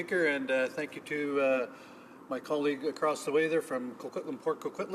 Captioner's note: speaking French